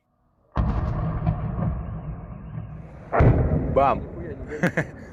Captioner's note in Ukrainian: вибух